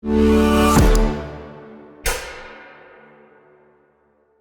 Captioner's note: stomps